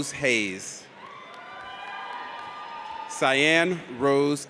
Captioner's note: audience cheers